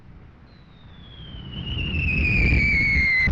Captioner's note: bombs whistling